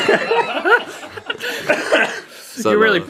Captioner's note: Rhett & Link laughing